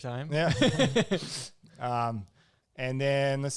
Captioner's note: both laugh